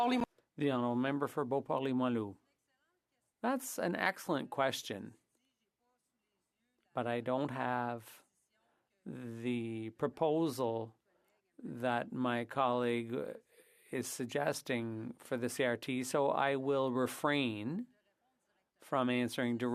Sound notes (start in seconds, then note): 7.9 speaking French